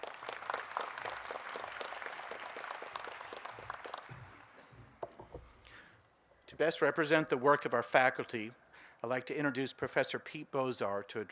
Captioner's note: applause